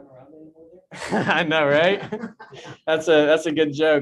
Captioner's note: chuckles